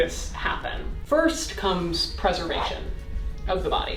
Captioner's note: air whooshing